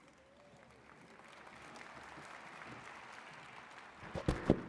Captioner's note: attendees clapping